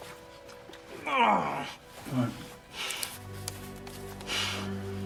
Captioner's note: Robert groaning; dramatic orchestral music continues